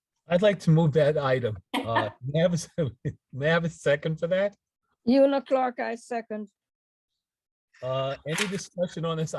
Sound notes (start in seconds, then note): 1.8 chuckles